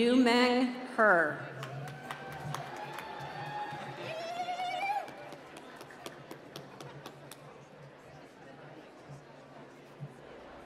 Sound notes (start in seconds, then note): 1.5 applause